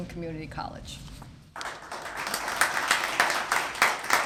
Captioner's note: applause